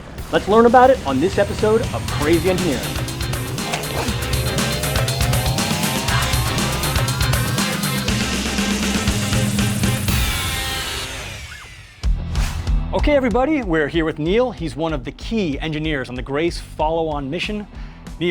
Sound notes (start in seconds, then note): 3.3 chomp; 12.3 whoosh